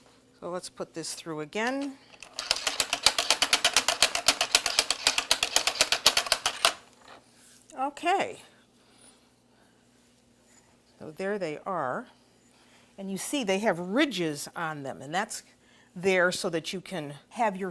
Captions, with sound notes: So, let's put this through agai. [MACHINE CRANKING] OK. So, there they are. And you see they have ridges on them, and that's there so that you can have